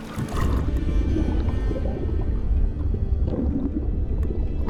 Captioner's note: water lightly lapping; bubbles gurgling